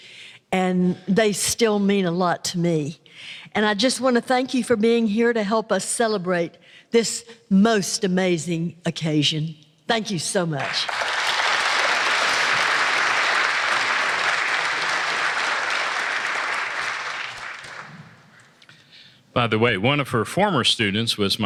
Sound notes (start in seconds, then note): 10.9 applause